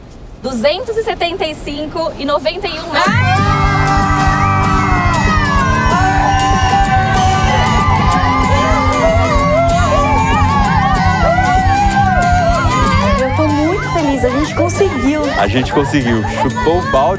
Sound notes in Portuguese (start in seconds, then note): 3.2 gritam; 5.2 todos gritam comemorando